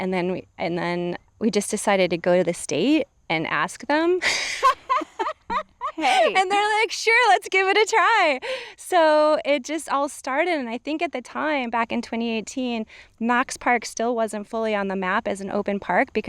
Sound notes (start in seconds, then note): 4.2 laughing